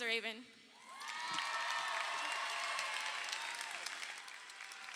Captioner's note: crowd cheering